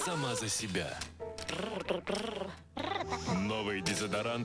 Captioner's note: growl